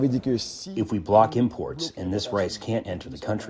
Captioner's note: through translator